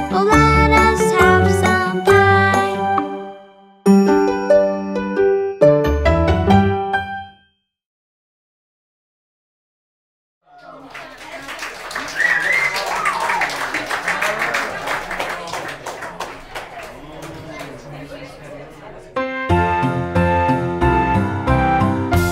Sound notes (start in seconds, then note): 10.5 whistling, applauding; 19.2 low tempo music